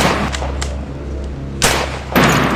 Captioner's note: gun Shot